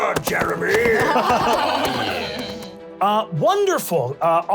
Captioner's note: laughs